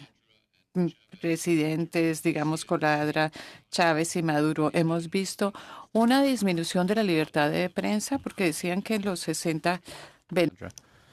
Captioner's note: speaking in spanish